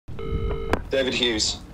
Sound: phone rings

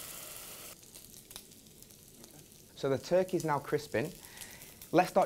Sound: sizzling

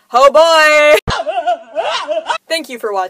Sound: crying sound effects

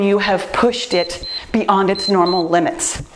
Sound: timer beeps

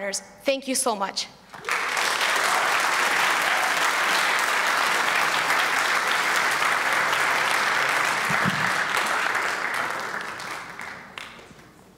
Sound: applause

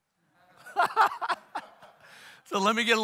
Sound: all laughing

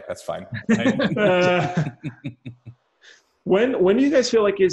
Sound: laughing

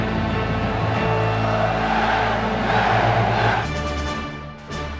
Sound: crowd chanting

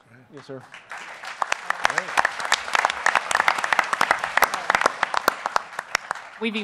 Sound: applause

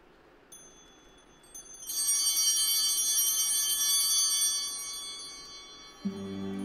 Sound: bell ringing

